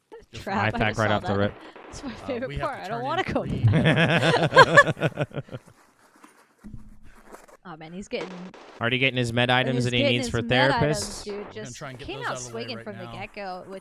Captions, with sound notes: - The trap, I just saw that. That's my favorite part. I don't wanna go back. (laughing) Oh man, he's getting-- - Already getting his med items and A.M.E.s for therapists. - I'm gonna try and get those out of the way right now.